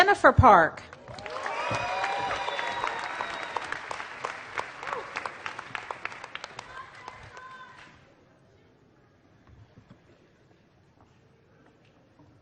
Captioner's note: applause